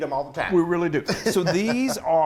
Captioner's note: laughing